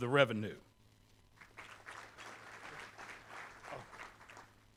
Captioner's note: applause